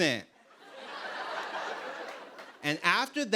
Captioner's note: laughter